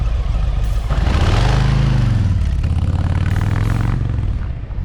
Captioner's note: engine grumbling